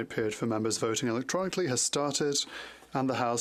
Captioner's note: speaking French